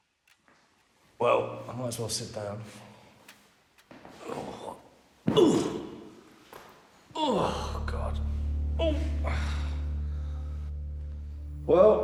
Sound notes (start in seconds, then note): 4.5 Danny grunts; 7.2 light dramatic music